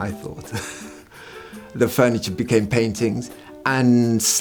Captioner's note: chuckles